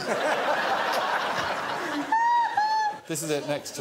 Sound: laughter

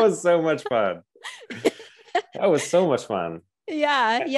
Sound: laughing

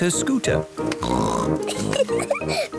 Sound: snorts, giggles

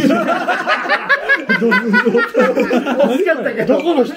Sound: laughing

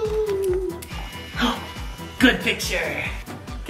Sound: camera shutter clicks; dad gasps

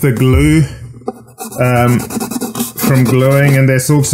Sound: sandpaper scratches

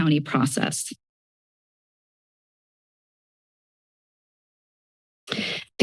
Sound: silence; inhales

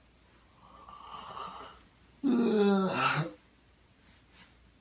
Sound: yawn

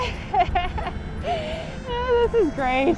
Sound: more Giddy Laughter

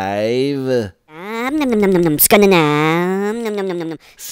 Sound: funny motor sound goes

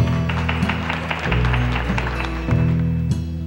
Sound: audience clapping

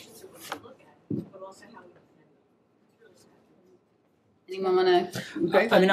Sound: audio fades out

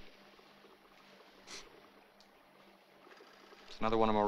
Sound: sniffs

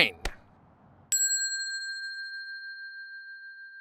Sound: bell dinging

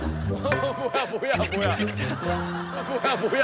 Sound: laughing

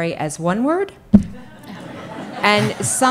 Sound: audience laughing

